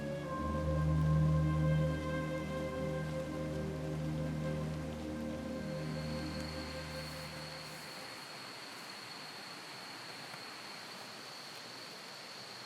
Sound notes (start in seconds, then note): 0.0 slow dramatic music; 6.6 insects chirping